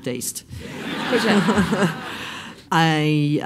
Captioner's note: laughs